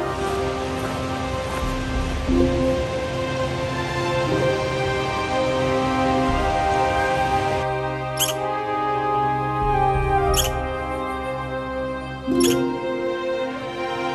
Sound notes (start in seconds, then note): 0.0 sound of footsteps and distant waterfall; 8.1 sound of squirrel chirping